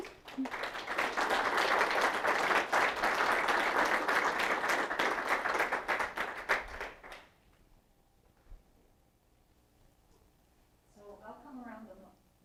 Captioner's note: applause